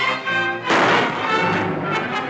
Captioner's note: gunshot